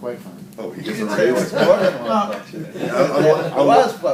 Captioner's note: laughter